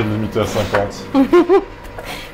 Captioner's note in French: rire